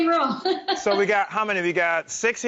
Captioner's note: laughs